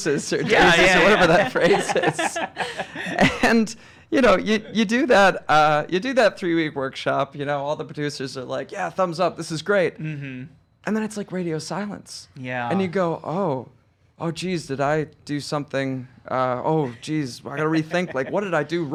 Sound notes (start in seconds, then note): 0.0 laughing